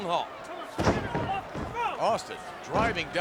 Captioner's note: Stone Cold thudding